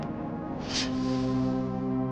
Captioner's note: sword unsheathing